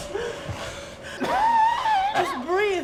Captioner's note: wind whirling; coughing